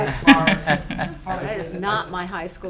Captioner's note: speakers laughing